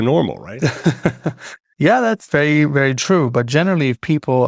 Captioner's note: laughs